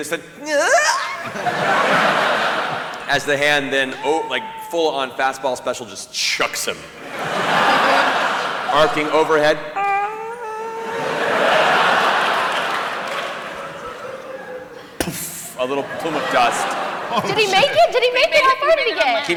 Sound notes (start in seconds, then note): 2.3 squeal; 9.4 distant scream, impact